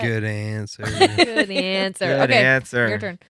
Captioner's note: laughing